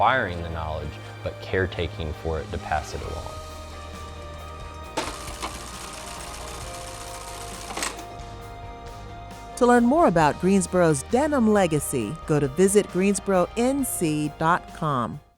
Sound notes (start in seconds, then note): 5.6 uplifting music continues; 7.4 sewing machine rattling